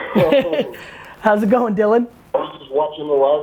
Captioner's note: laughs